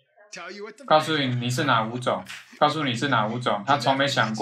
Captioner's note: laughs